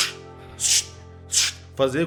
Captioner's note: tssh